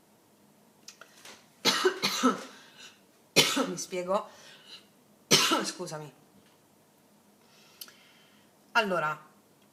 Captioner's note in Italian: tosse